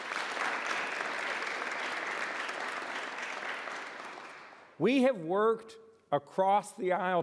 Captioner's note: applause